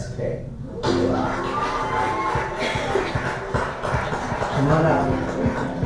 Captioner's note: applause